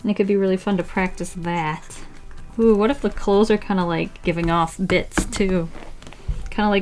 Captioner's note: smacks paper with pencil